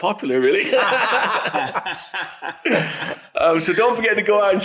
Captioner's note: everyone laughs